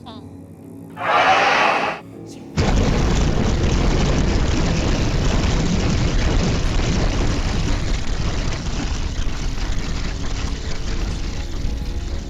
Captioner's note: sea dragon roars and shoots fire